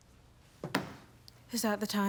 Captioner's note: phone thudding